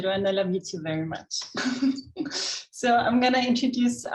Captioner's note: chuckles